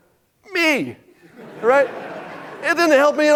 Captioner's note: audience laughing